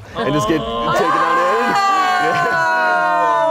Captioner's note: yells